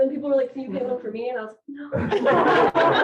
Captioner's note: laughter